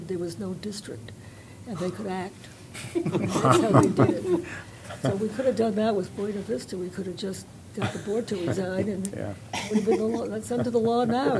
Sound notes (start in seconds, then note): 2.8 laughter